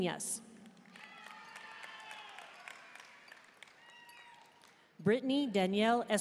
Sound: audience cheering and applauding

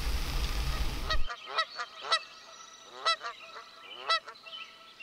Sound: birds squawking

